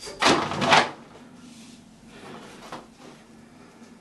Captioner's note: rope rustling